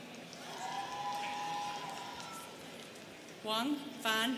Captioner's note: students cheering